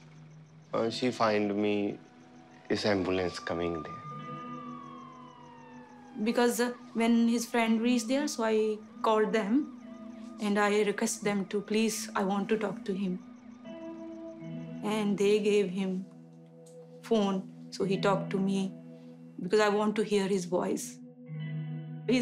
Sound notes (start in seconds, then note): 4.5 siren wails in distance